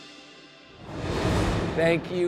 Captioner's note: upbeat music continues; graphics whooshing